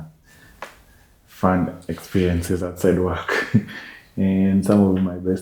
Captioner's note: laughs